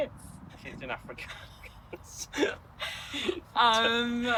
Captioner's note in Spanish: risas